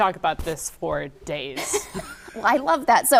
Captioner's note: laughing